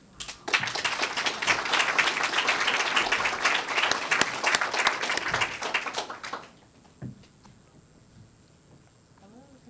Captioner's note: applause